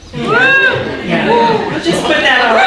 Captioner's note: audience cheering